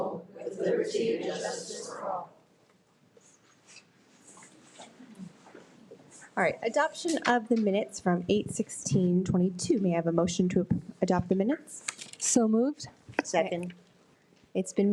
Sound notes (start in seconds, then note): 4.0 rustling